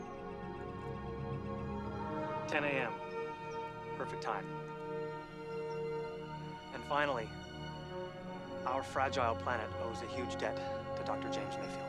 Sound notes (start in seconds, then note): none